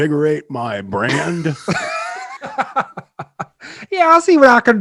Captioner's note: hosts laughing